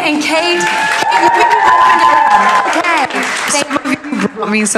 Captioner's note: audience applauding and cheering